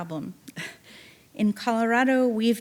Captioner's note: chuckling